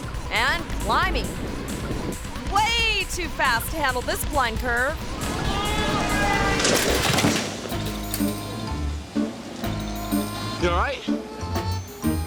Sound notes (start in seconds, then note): 5.2 bus horn honking; 6.6 cyclist thuds; 7.6 quirky music